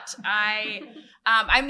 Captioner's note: laughter